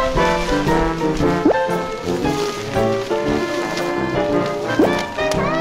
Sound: crinkle, crinkle

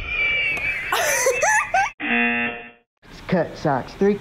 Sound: laughs; buzzer rings

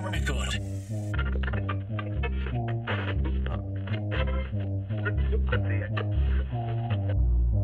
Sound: radio static

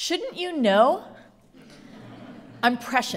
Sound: audience laughs

